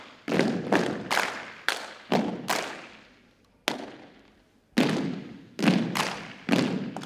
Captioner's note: rhythmic thumping and clapping continues